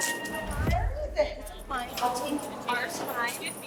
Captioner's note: inmates chattering